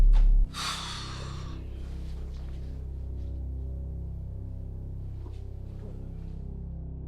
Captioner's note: tense music; girlfriend sighs